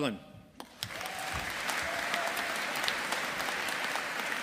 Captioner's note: audience applauding